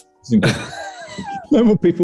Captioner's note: sniggering